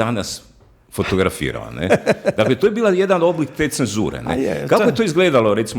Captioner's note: laughter